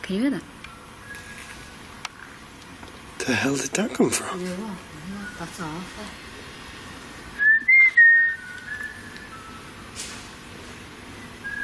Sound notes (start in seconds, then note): 4.5 whistling